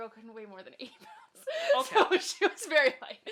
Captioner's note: laughs